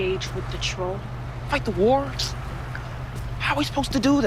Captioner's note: scoffs